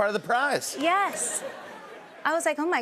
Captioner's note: laughter